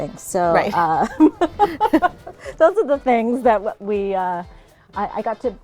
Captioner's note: laughing